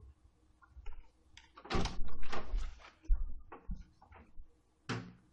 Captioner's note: door opens